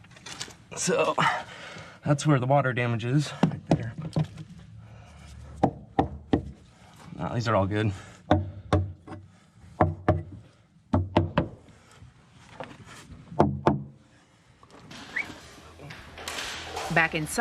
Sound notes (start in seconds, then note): 5.9 tapping; 8.6 tapping; 15.0 whistles